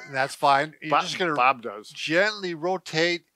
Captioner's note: chuckles